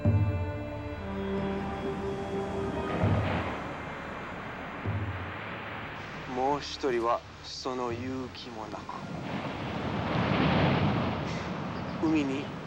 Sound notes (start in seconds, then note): 6.6 speaking foreign language; 9.8 waves crashing